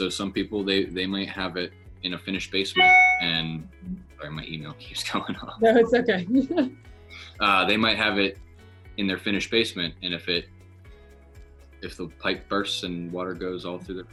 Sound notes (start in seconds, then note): 2.7 computer alert dings; 5.6 laughs